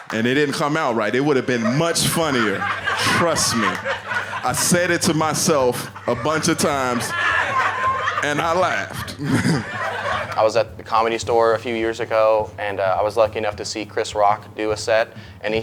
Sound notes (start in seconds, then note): 2.9 audience laughing; 9.5 laughing